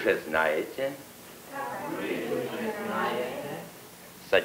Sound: foreign language

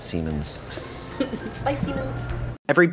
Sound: laughs

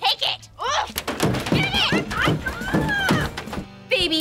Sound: groaning, thudding

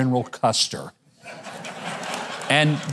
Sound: audience chuckling

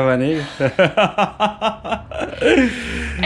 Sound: we all laughed because it’s worth giggling

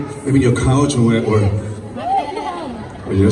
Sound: crowd laughs

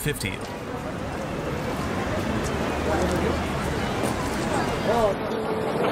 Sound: background chatter and outdoor noise

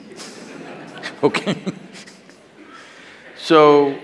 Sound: laughter

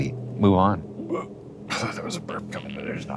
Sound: begins to burp

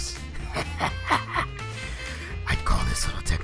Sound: evil Laughter, inahles

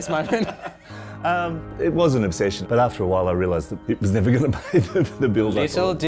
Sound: laughs

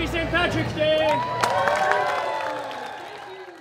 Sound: cheering and applause

